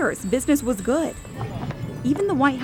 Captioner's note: rumbling